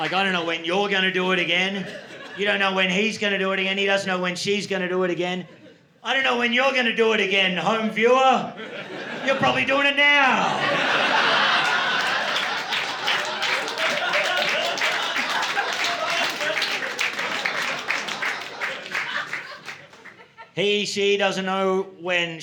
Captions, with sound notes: Like, I don't know when you're going to do it again. You don't know when he's going to do it again, he doesn't know when she's going to do it again. I don't know when you're going to do it again, Home Viewer. You're probably doing it now. [LAUGHTER] [APPLAUSE] He, she doesn't know when